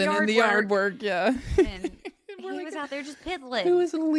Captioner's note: laughs